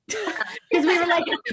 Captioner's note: laughs